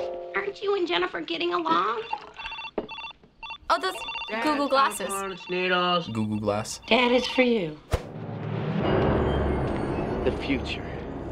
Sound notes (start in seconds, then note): 1.9 phone blips; 8.0 dramatic music